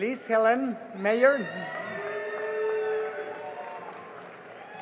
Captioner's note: cheering and applause